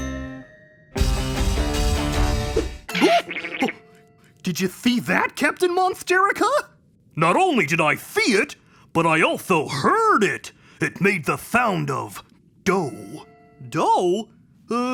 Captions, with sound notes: (gasping) - Did you see that, Captain Monsterica? - Not only did I see it, but I also heard it. It made the sound of doe. - Doe?